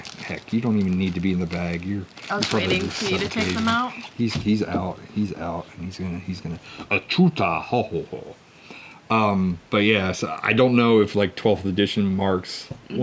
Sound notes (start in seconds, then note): 6.7 speaks in Huttese